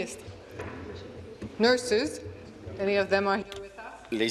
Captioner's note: speaking in French